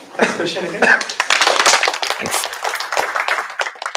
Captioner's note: applause